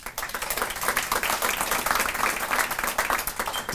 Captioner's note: audience applauding